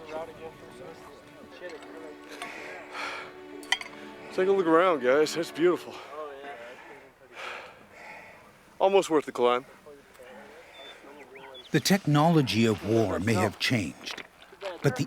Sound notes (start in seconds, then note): 2.4 exhales; 6.2 voiceover; 11.9 voiceover